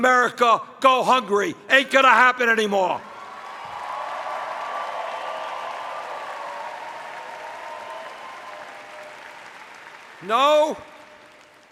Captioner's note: cheers